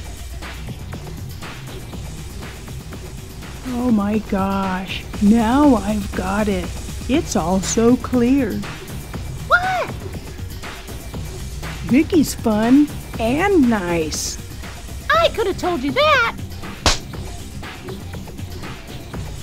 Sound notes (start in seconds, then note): 16.8 slap